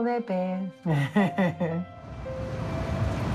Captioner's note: first woman laughs